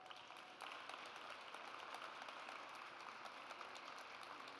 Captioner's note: audience applauds